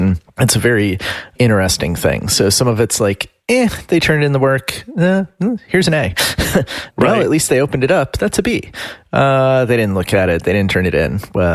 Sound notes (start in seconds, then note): 6.9 laughs